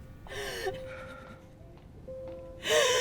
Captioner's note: crying